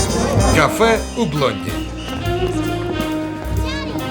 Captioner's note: whistle blows